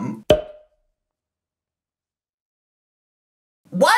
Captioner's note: cork pops